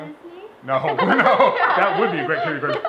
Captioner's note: laughter